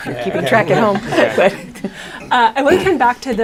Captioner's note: laughter